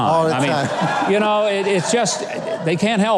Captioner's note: Antonio and crowd laughing